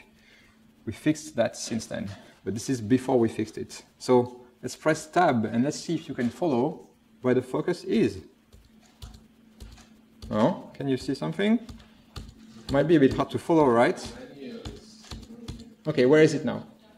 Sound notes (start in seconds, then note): 14.6 keyboard press noises; 16.7 audience answers